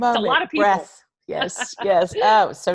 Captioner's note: laughs